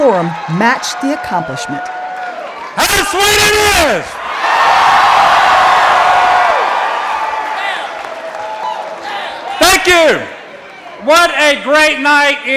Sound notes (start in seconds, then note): 9.2 applause